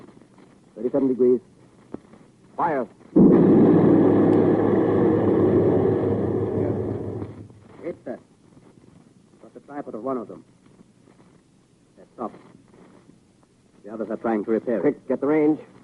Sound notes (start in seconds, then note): 3.1 heavy gunfire